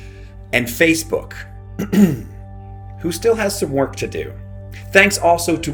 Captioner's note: clears throat